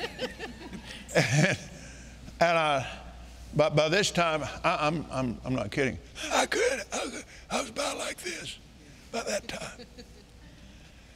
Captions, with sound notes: (congregation member laughing) (chuckling) And, by this time I'm not kidding, I was about like this about that time.